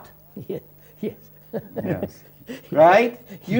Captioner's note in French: Rires